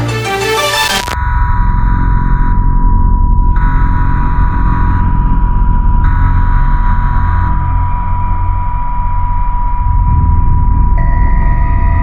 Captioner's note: emergency tones